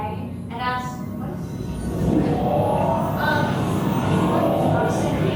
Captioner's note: whooshing